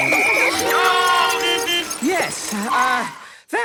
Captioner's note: beeping; whistle blowing